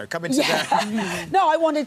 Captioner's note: laughing